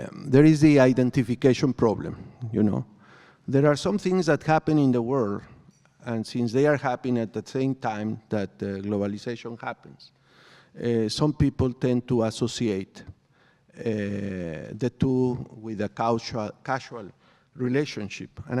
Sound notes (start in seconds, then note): none